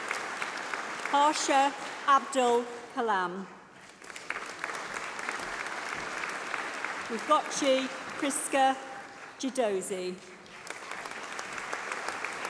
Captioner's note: applause